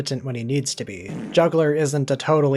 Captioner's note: fart